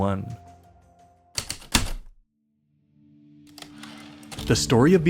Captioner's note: heavy typewriter keystrokes, typewriter return slide